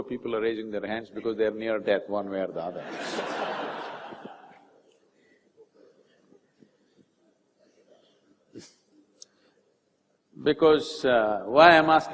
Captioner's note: laughter